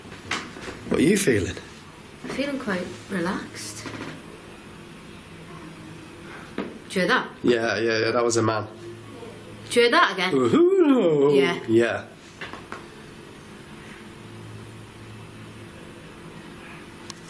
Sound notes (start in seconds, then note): 5.6 distant voice; 9.2 distant voice; 10.4 mumbles